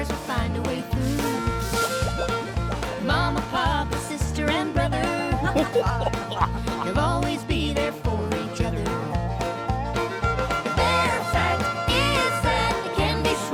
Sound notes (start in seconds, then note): 3.2 laughing